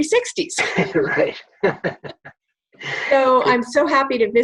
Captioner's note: both laughing